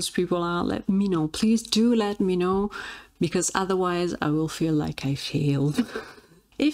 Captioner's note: laughs